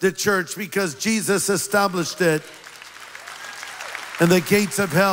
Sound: applause

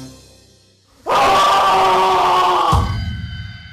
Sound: scream

